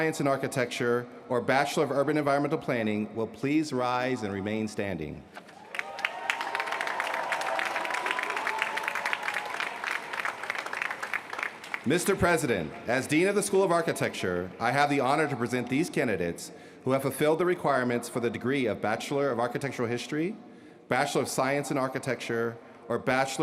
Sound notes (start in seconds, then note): 12.7 applause